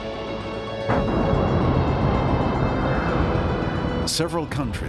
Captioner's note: huge explosion